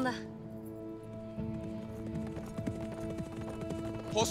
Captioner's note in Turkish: At nalı sesi